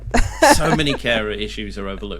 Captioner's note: laughing